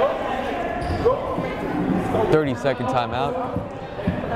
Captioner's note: chattering